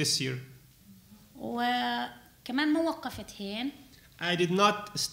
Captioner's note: speaking arabic